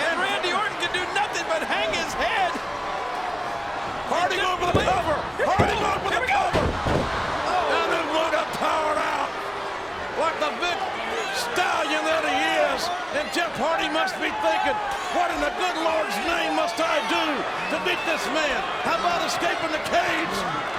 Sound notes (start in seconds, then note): 8.4 audience booing